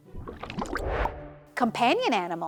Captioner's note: water burbling; transition whooshes